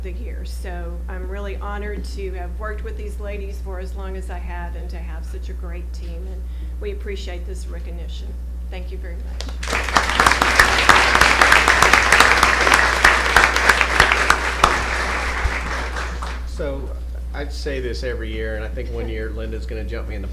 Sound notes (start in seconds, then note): 13.2 applause